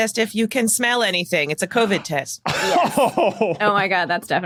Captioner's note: chortles